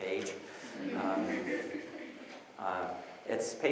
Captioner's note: audience laughs